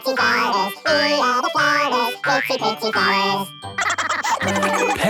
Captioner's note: laughter